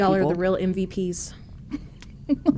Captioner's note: laughs